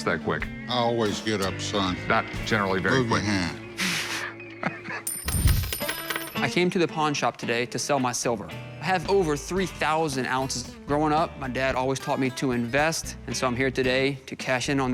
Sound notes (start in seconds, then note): 4.0 chuckles